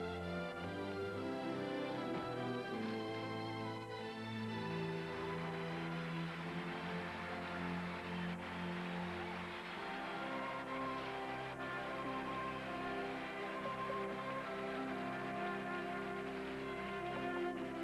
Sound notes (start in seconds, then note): 4.2 applause